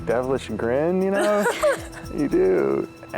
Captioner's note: laughs